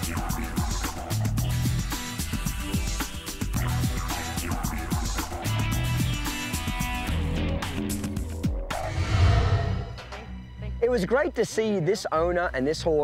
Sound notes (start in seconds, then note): 0.3 didgeridoo music; 8.7 whoosh